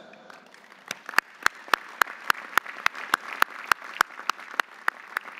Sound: audience applauding

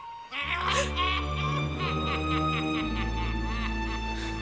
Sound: cackling

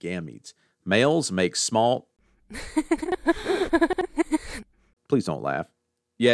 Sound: laughter

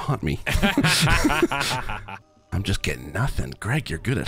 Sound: both laugh

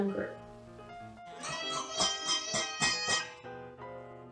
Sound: baby noises

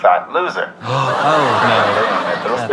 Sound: gasps

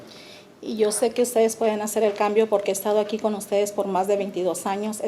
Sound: speaking Spanish

